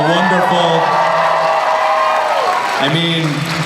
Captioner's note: cheering